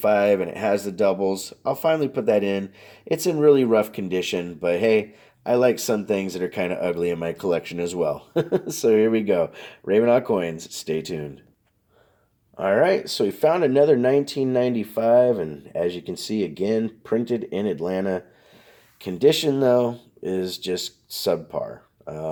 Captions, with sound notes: and it has a doubles, I'll finally put that in. It's in really rough condition, but hey, I like some things that are kind of ugly in my collection as well. (laughs) So here we go. RavenHawk Coins, stay tuned. All right, so we found another 1995 and, as you can see again, printed in Atlanta. Condition, though, is just subpar.